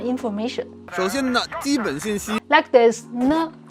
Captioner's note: speaking in Mandarin